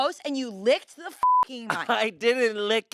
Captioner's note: beep